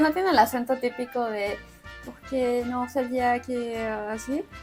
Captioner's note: speaks with a questionable French accent